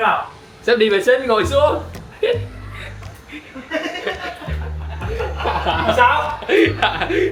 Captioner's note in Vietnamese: tiếng cười